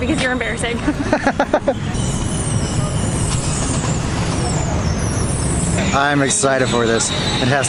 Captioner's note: laughter